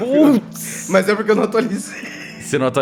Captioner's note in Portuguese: risada